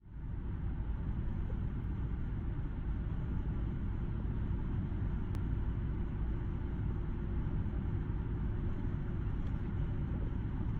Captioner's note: hum of vehicle on a highway